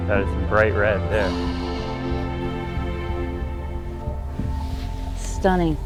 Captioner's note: sighing in awe